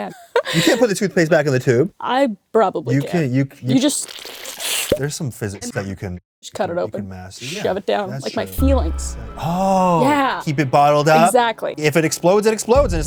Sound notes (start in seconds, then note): 3.8 schloop